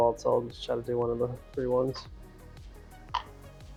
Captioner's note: Chinese